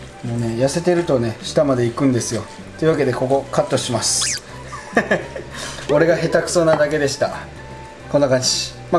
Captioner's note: haha